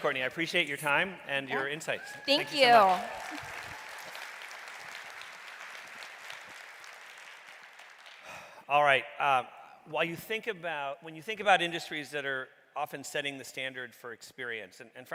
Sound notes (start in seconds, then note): 1.6 audience cheering; 4.0 audience clapping